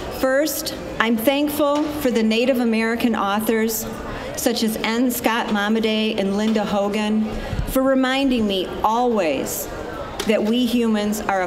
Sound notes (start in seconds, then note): none